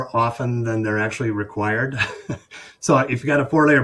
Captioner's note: chuckles